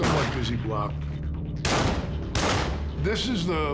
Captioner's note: gun shots